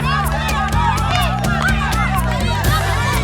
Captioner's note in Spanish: ovación